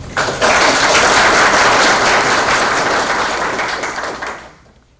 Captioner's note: applause